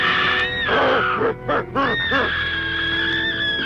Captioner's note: grunting